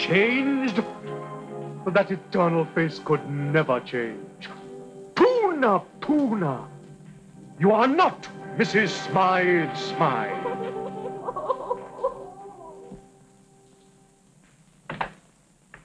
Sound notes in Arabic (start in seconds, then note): 10.4 يئن